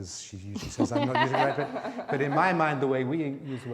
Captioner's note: laughing